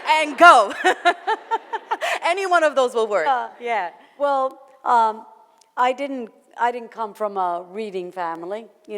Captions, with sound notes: - And go! (laughs) Any one of those will work. - Yeah, well I didn't come from a reading family.